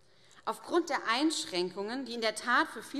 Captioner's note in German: none